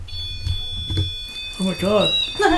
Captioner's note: alarming sound